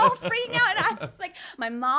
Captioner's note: giggling